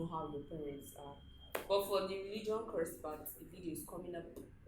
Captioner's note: claps